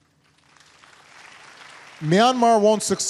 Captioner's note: applause